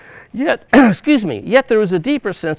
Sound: clears throat

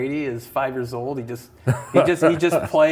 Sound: laughs

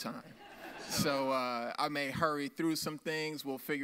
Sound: audience laughs

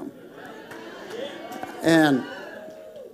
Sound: congregation applauding

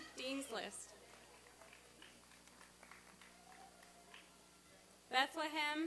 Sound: applause and cheering

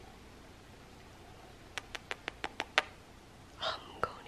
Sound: smooches; whispering

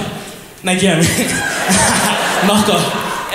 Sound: crowd laughs

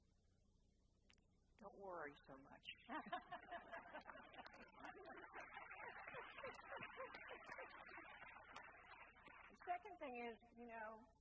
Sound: applause

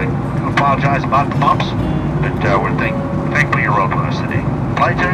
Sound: radio garbling pilot

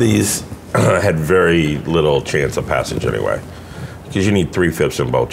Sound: laughing

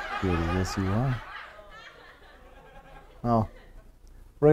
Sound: laughter

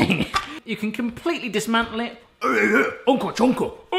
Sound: grunts

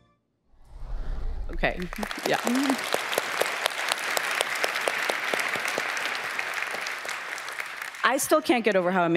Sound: cheers

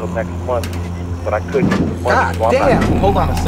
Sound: banging

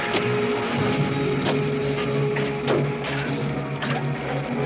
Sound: hitting

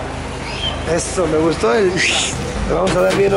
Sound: fiiiu

